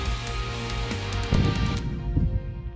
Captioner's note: gun shot